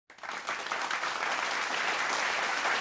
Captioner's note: applause